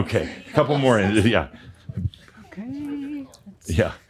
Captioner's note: they chuckle